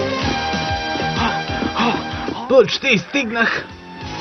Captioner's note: panting